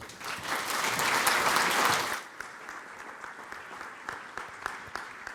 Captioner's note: applause